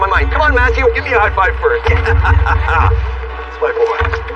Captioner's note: laughg